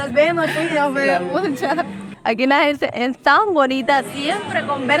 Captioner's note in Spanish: Risas